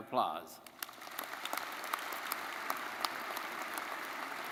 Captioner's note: crowd applauding